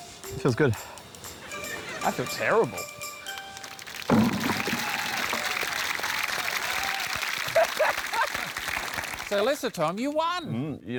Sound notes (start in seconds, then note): 7.1 laughs